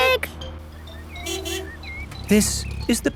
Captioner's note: honking